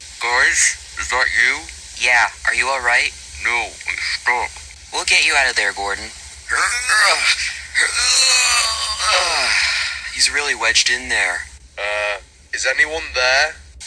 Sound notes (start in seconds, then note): 7.8 grunts